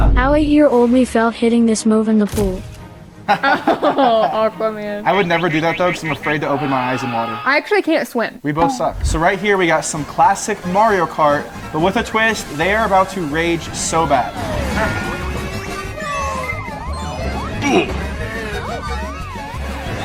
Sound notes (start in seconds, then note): 3.3 both laugh